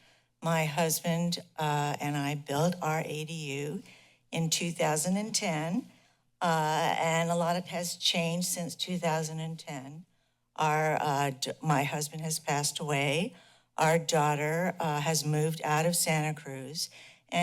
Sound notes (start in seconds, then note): none